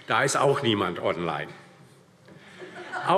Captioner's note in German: Heiterkeit und Beifall DIE LINKE